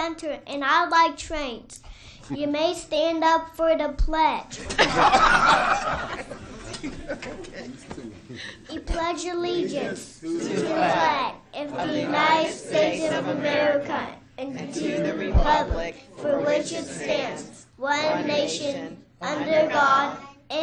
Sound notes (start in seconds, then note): 4.5 laughter and pledge